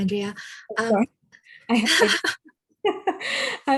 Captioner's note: both laughing